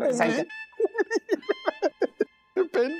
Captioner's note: laughs